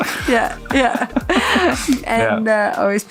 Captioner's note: laughs